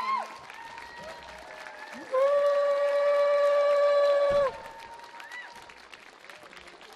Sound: audience cheering; audience clapping

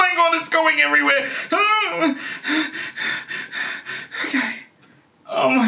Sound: panting

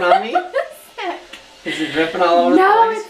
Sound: laughs

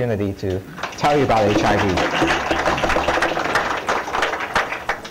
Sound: applause

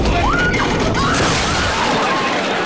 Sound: screaming

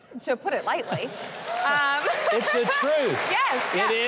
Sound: audience laughs and applauds

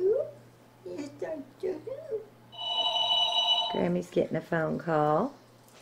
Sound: telephone ringing

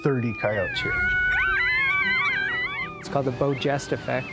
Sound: both howling

